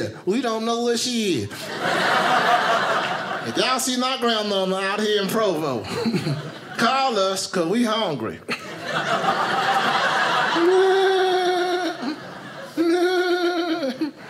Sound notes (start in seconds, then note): 1.5 audience laughing; 8.5 audience laughing; 10.1 laughing